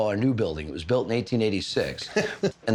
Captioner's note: laughs